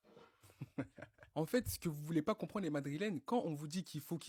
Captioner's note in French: rires